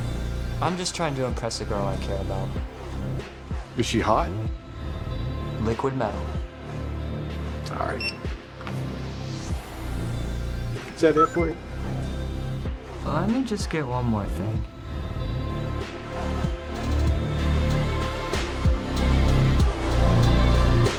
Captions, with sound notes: I'm just trying to impress a girl I care about. Is she hot? Liquid metal. -All right. -[electronic beep] Is that it for you? Let me just get one more thing. [upbeat synth pop music]